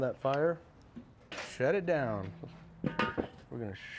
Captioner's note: metal thudding